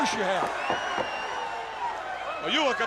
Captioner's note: crowd cheering